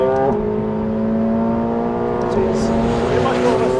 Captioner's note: car revving